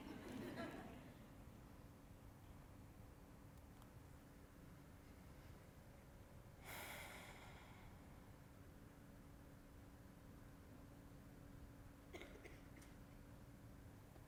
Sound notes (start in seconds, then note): 0.0 audience chuckles; 6.7 sighs